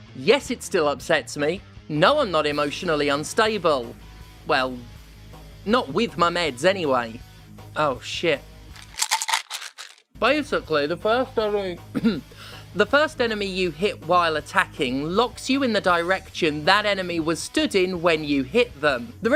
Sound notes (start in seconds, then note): 8.7 pill bottle sounds